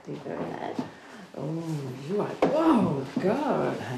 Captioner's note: moaning